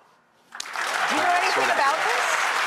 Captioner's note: audience clapping